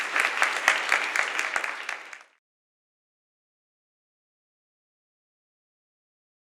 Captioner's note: applause